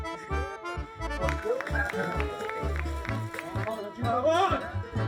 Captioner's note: clapping